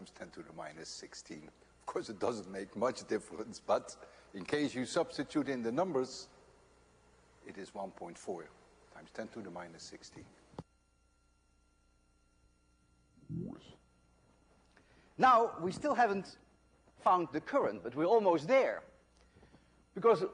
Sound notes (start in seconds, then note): 13.1 tape resumes normal speed